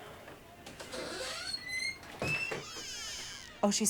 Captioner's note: door creaks open